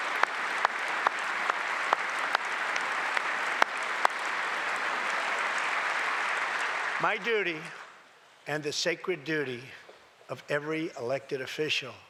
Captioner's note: applause